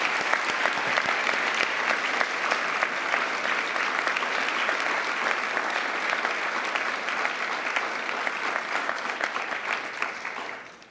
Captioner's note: applause